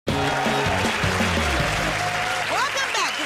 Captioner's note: cheers and applause